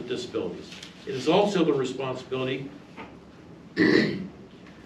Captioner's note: clears throat